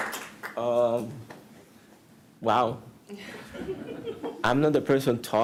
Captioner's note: applause